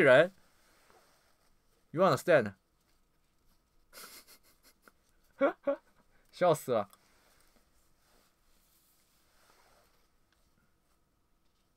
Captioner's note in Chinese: 大笑